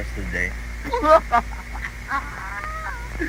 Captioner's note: laughing